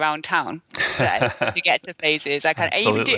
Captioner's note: laughing